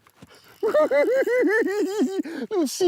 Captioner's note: laughs